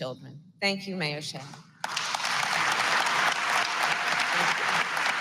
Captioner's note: applause